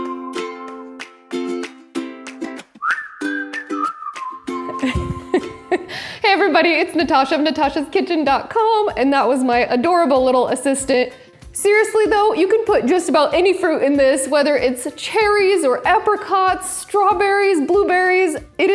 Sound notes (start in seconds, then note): 4.7 laughing loudly